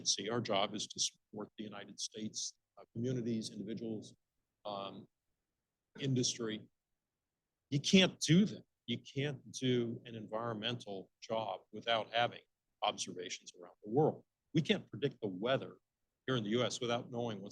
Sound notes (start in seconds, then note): none